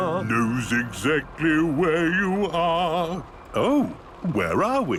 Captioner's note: mimicking tune